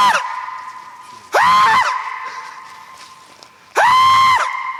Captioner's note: screams